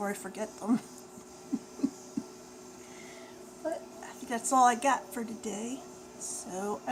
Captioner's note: laughs